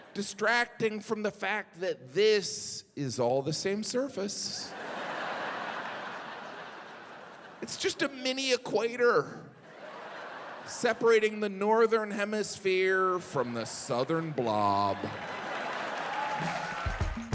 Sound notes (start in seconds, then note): 4.6 audience laughing; 9.6 audience laughing; 15.2 audience laughing; 16.4 hip hop music